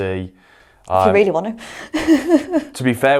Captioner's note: chuckles